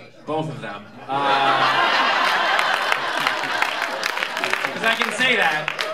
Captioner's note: laughter